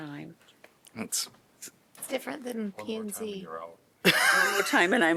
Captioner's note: laughter